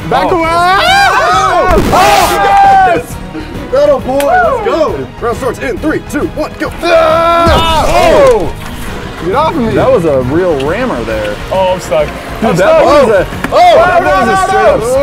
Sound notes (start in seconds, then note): 6.8 battle cries